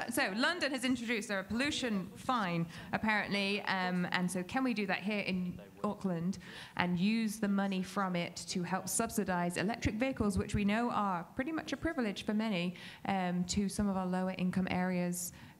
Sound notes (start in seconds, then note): none